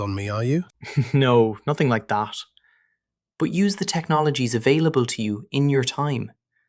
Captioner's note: chuckle